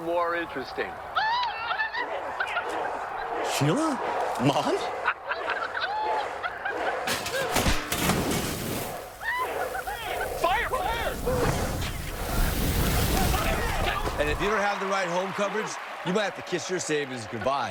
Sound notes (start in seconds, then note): 2.7 indistinct chatters from TV; 6.7 laughter; 7.7 metallic thuds